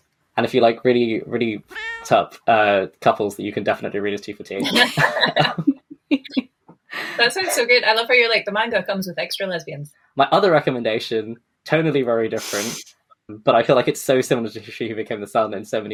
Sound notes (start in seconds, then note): 4.6 laughing